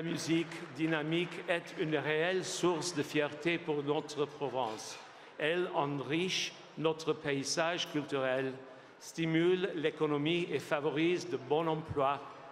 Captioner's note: speaking French